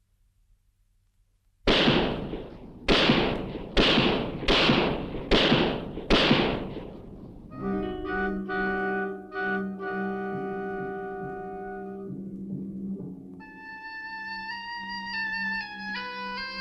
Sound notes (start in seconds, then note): 1.6 gun shoots; 7.4 ominous music